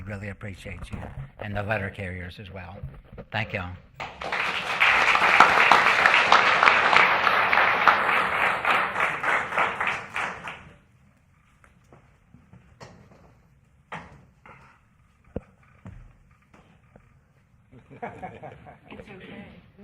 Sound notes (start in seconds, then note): 5.7 applause